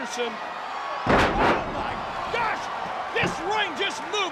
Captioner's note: wrestlers thudding on ring